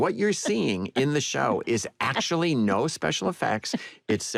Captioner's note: laughter